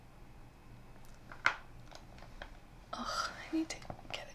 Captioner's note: cracks neck violently